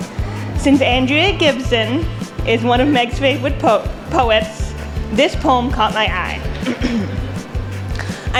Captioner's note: clearing throat